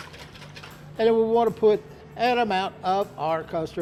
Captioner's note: whisking